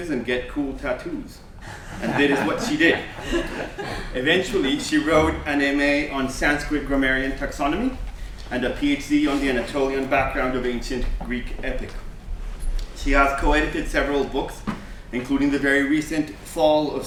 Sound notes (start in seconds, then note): 3.3 laughter